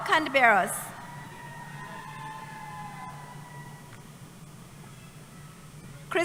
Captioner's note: cheering